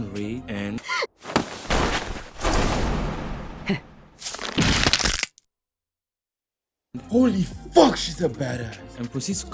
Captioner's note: crack/snap?